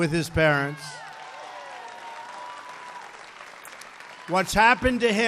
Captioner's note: applause